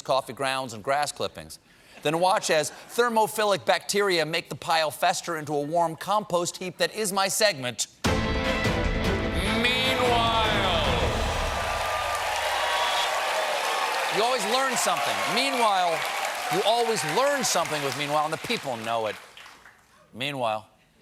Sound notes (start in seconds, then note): 10.1 cheers and applause